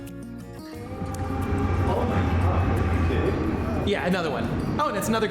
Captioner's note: train rushing